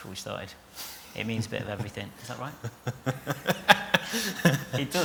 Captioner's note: laughs